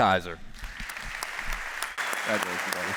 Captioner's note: applause